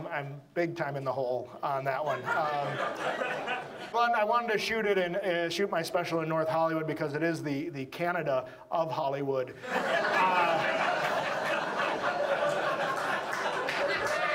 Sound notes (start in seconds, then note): 2.0 audience laughs; 9.6 audience laughs